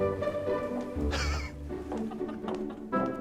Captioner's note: laughs